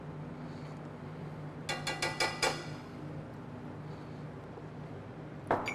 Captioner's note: utensil thudding